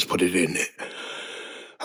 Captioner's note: inhale